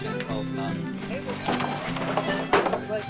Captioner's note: workers murmuring; container thumping